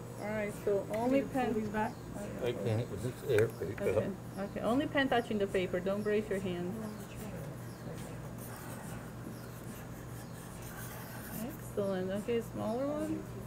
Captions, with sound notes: All right, so only pen. - I can't, because it's, there we go. - Okay, okay. Only pen touching the paper. Don't brace your hand. (pen scribbling) Excellent. Okay, smaller one.